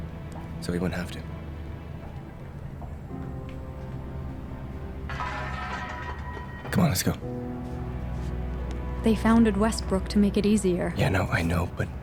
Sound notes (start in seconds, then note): 5.1 cans rattling